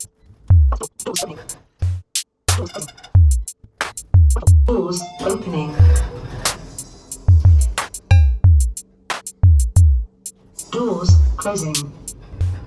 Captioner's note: doors Closing; doors Opening